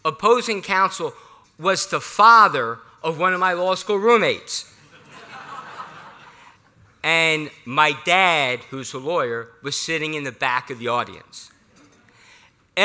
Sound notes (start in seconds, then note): 4.8 laughter